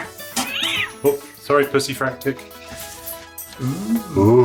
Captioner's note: cat screeches